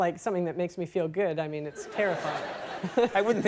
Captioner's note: Michael and audience laugh